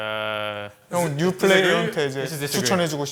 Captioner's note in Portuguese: fala em coreano